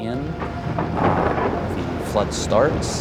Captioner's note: thunder clap